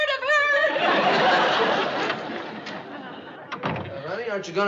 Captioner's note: sobbing